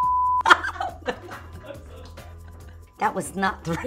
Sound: laughing

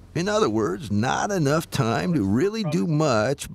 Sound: laughing

